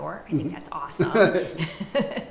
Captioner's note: laughs